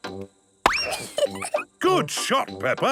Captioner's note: giggles